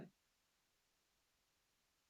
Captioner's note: music stops